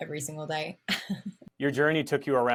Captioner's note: laughter